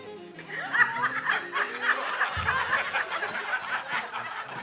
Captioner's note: audience laughing